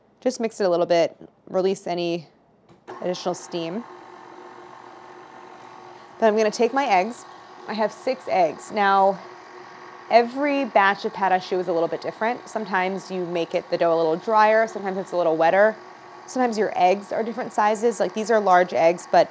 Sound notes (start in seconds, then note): 3.3 paddle engine roaring